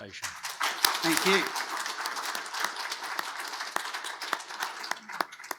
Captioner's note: audience applauds